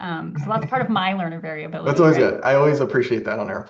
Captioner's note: laughs